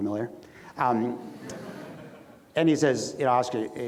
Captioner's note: audience laughs